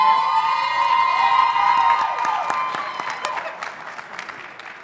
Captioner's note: audience cheering